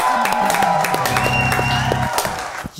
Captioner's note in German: Jubel, Applaus